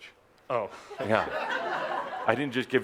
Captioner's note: laughter